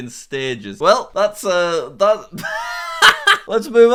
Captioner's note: laughs